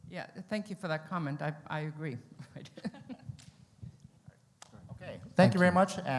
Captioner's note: laughs